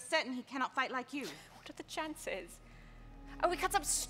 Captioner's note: scoffs